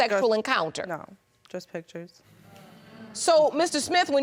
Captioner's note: audience murmuring